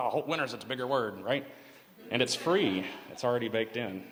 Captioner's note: laughter